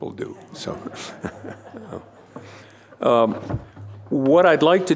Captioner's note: laughter